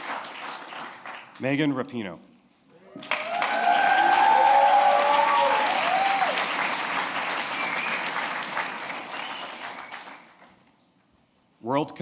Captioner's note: applause